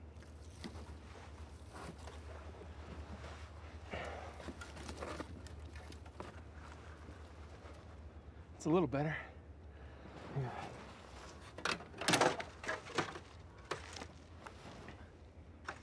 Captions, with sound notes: It's a little better. (branches banging)